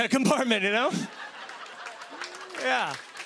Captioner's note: laughter